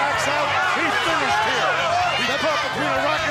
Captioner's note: crowd screaming